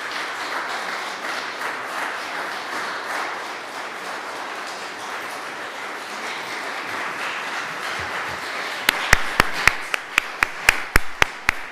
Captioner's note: applause